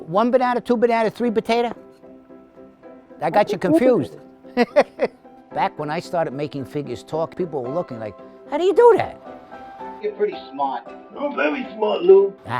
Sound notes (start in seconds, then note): 1.8 piano music; 4.5 laughs